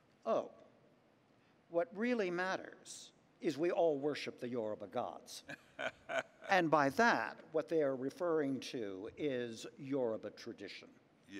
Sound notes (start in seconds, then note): 5.5 laughs